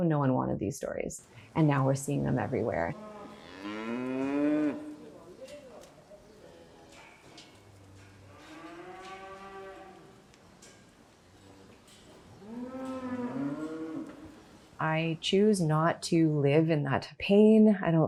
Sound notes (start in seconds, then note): 2.4 cows moo